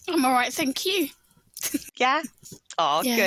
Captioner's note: chuckles